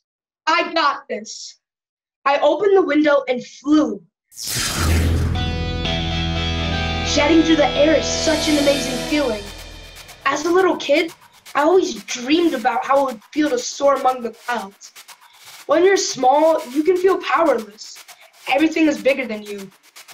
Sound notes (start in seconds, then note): 4.3 zap; 4.5 heroic music